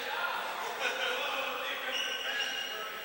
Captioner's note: laughter